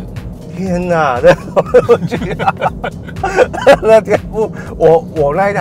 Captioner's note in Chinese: 哈哈哈哈哈哈哈哈哈